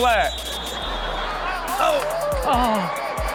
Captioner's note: crowd laughs; whistle blows